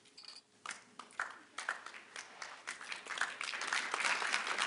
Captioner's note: applause